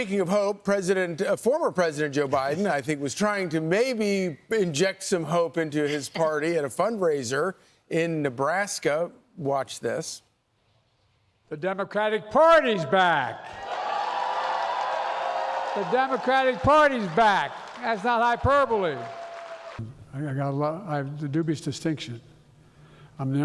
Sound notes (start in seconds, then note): 17.0 cheers and applause